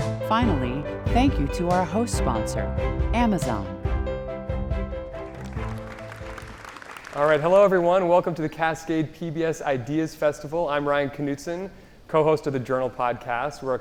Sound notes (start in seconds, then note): 4.2 light music continues; 5.1 audience applauding